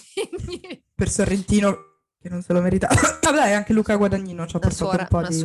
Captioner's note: cough cough